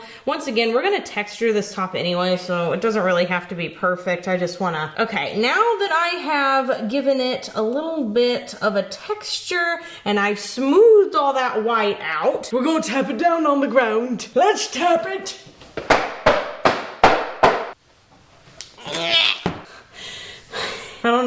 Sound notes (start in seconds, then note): 15.8 box tapping; 18.8 grunts; 19.6 breathing heavily